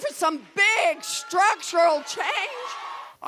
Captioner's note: cheering and applause